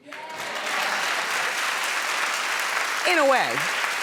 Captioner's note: applauding